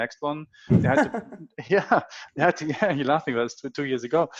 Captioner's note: laughs